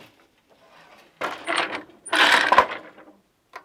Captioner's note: noise of shuttle moving